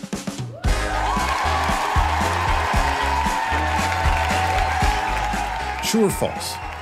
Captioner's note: applause